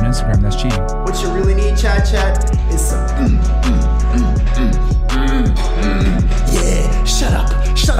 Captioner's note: moaning and thrusting noises